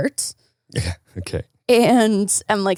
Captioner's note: chuckles